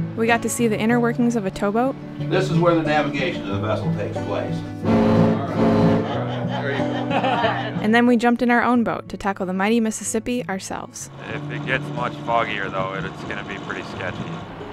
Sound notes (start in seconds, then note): 4.6 boat horn blares; 5.3 group laughing